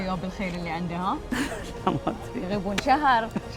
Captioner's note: laughing